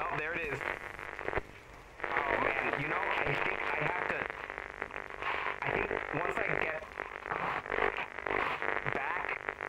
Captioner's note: Static